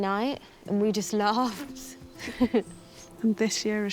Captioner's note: chuckles